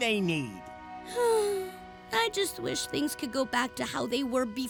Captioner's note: sighs